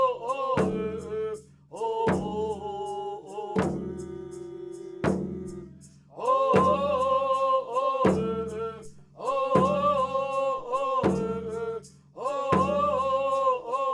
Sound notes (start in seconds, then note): 7.7 chanting continues